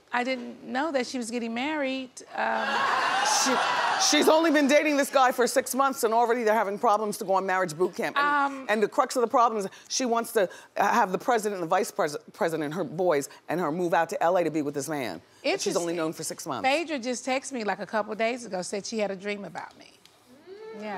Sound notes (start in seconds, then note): 2.6 audience laughs